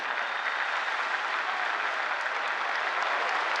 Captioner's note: cheers and applause